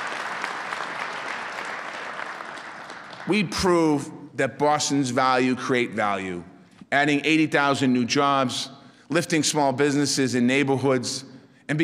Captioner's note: applause